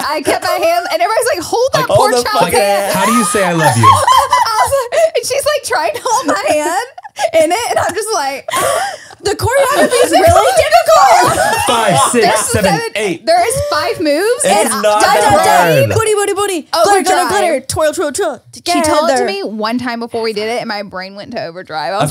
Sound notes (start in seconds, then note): 11.0 everyone laughs